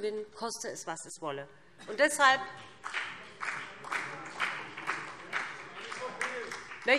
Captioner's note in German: Beifall BÜNDNIS 90/DIE GRÜNEN